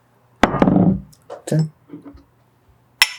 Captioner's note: bottle being set down